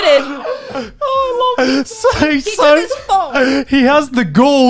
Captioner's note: laughing